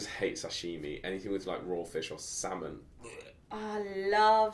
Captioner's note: gags